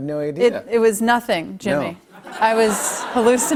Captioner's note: laughter